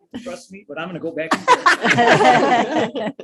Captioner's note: all laugh